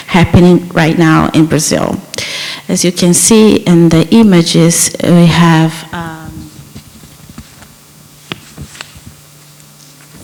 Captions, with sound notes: happening right now in Brazil. As you can see in the images we have... um... [SOUNDS OF RUSTLING PAPER]